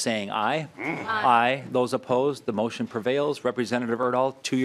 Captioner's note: chorus of ayes